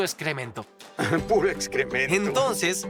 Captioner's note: laughs